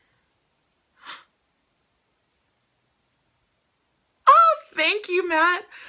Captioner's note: gasps